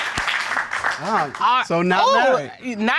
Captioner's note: judges exclaim